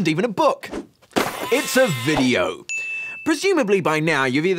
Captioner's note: glass shatters, sheep bleats